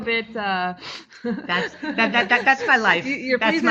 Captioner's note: laughing